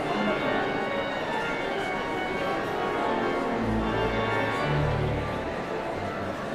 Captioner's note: audience chatter continues; sound of organ tuning